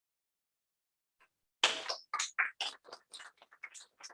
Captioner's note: applause